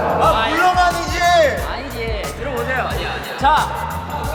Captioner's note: está gritando otra vez